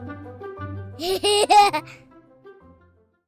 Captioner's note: laughter